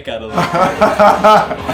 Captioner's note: laughing